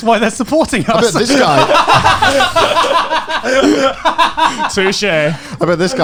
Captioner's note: hosts laughing